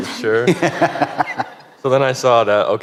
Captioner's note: laughter